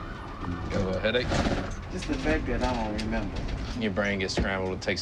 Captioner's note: thud